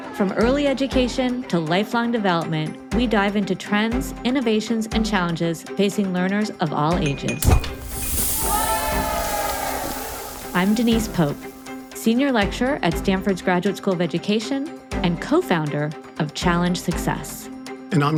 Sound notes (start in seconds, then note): 7.4 glass clinking; 7.5 object hissing